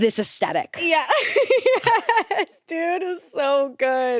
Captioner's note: laughs